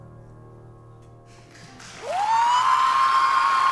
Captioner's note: cheering